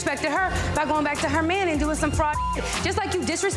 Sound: beep

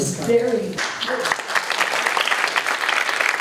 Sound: applause

